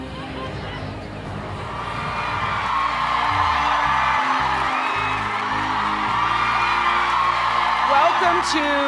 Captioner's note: cheers and applause